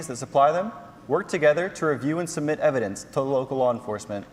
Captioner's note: none